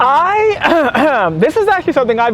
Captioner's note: clears throat